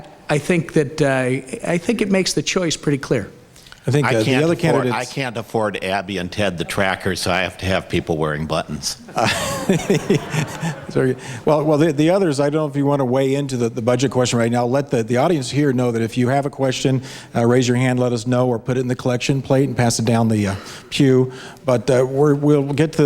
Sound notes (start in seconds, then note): 9.0 laughs; 9.1 audience laughs